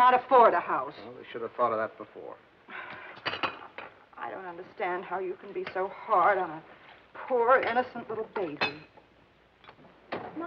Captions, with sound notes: -They can't afford a house. -Well, they should've thought of that before. --[sighs] I don't understand how you can be so hard on a poor, innocent little baby.